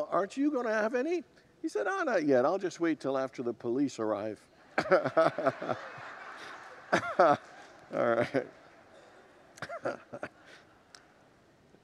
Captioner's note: congregants laugh